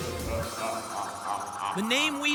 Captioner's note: spooky laughter